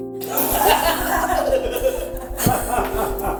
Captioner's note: laughter